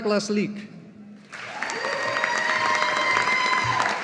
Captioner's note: audience applauding